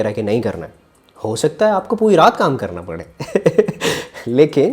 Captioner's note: laughs